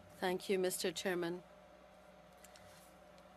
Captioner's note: speaking French